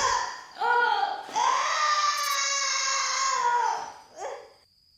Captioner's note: screams